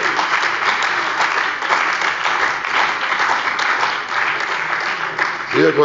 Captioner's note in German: Beifall bei der CDU und dem BÜNDNIS 90/DIE GRÜNEN